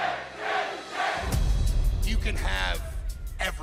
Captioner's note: fans chanting